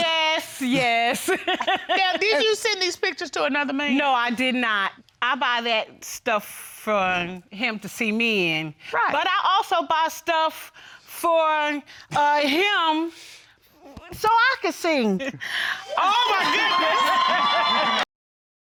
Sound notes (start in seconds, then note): 16.2 all hysterically laughing